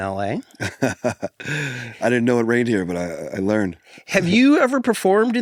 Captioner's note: laugh